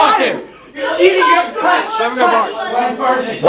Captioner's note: arguing